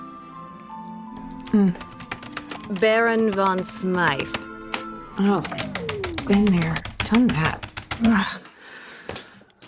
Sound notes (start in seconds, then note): 1.3 typing resumes